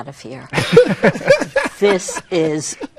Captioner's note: laughing